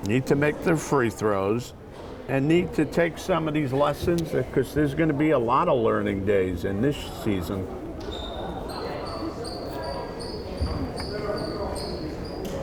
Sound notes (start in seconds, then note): 8.7 crowd chattering